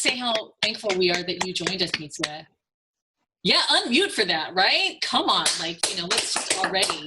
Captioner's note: clapping off camera